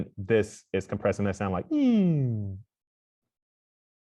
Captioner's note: makes elongated falling vocal sound